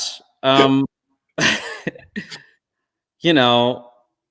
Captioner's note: laugh